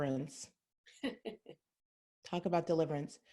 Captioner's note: laughs